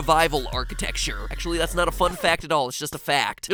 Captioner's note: disk scratch